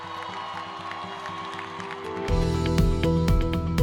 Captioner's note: applause